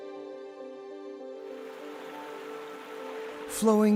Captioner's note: stream babbling